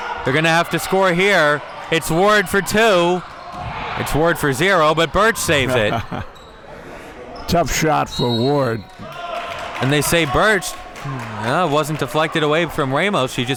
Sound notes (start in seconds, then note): 5.6 chuckles; 8.0 whistle blows